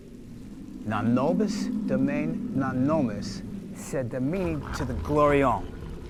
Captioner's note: David speaking in foreign language